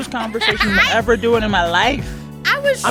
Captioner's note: laughter